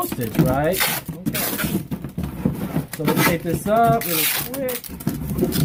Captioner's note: tape tearing